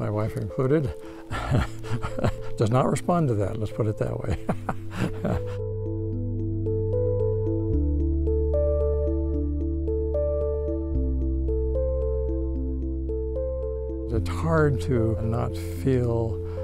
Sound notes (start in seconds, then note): 1.2 laughing; 4.3 laughing; 7.0 somber music